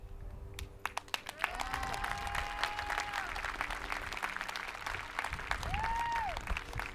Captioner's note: hands clapping; people cheering